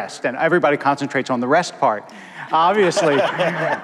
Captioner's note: laughter